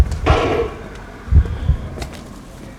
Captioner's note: heart throbbing